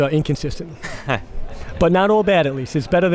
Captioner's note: laughs